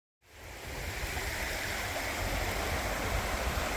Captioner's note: sound of running water